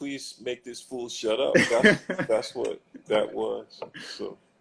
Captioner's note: laughs